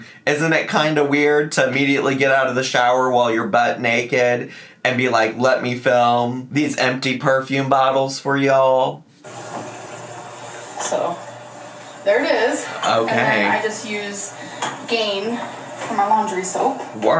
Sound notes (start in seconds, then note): 9.2 water rushing